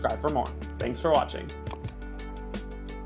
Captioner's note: mouse clicking; lively music